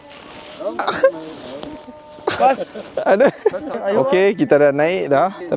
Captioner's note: laugh; speaking Arabic